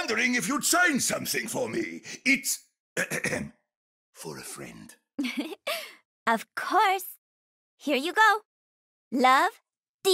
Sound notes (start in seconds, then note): 3.0 clears throat